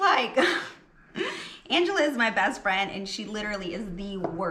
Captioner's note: laughs